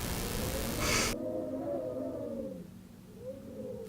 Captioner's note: wind howls violently